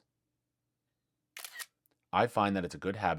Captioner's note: camera Click